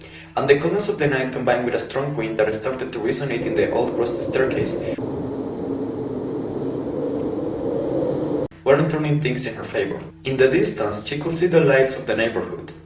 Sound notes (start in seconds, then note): 5.1 wind sound